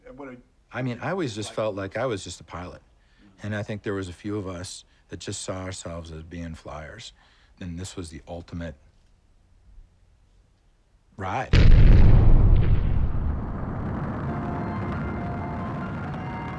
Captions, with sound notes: And what-- I mean, I always just felt like I was just a pilot. And I think there was a few of us that just saw ourselves as being flyers, and this was the ultimate-- ride. [BANGS] [RUMBLING]